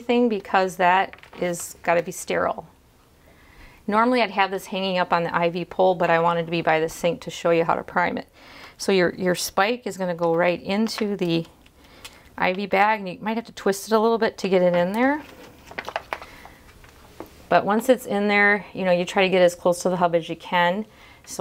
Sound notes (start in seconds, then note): none